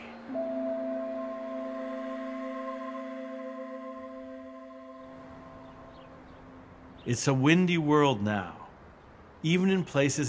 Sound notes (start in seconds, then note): none